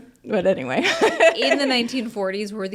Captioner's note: laughing